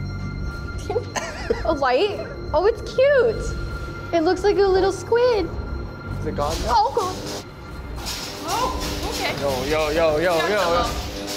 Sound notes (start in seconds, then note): 1.0 chuckles; 7.6 electricity zapping